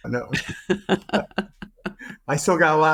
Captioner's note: both laughing